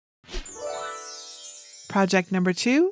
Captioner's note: bells twinkle